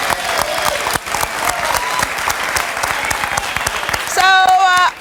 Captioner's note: audience applauding